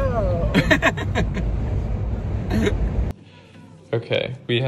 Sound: laughing

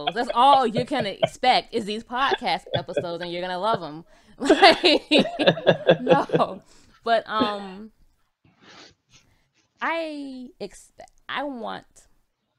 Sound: both laughs

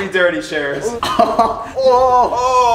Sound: chuckling; groaning

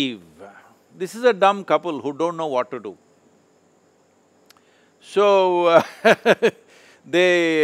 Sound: laughs

